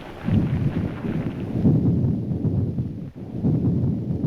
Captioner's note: thunder roaring